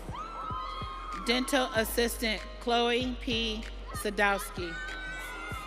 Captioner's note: audience cheering